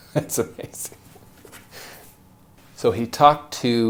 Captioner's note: laughs